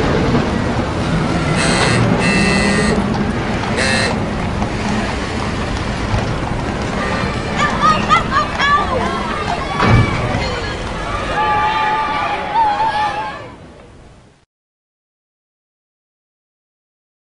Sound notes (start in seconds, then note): 6.7 children cheering; 9.3 children cheering. Vehicle engines and a trolley bell